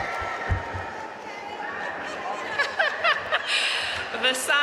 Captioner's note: laughing